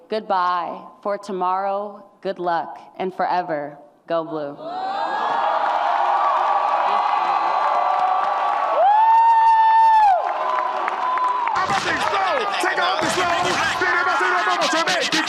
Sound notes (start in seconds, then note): 4.8 audience cheers; 11.6 hip hop music plays